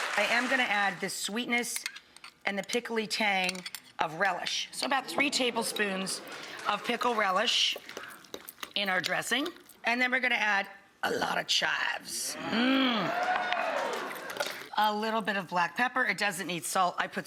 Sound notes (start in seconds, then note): 8.0 stirring in bowl; 12.9 audience cheers